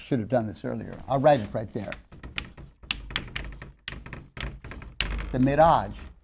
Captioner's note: sound of writing on chalkboard